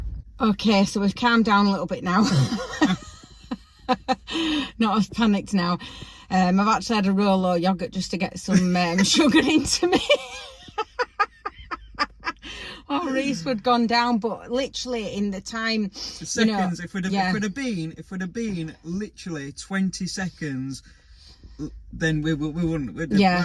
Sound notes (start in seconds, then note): 11.1 laughing